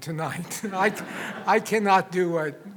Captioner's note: audience laughs